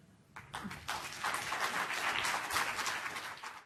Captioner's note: applause